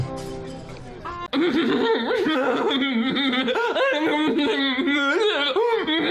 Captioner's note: both giggling; light music; giggling sarcastically